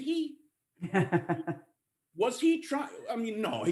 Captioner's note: laughter